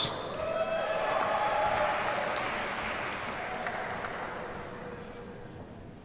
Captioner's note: audience cheers and applauds